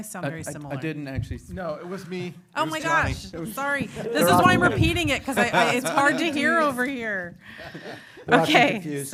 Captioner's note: laughter